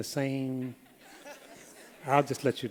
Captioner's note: laughter